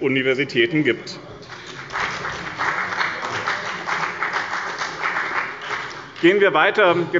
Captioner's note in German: Beifall bei dem BÜNDNIS 90/DIE GRÜNEN und der CDU